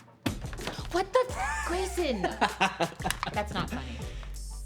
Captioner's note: everyone laughs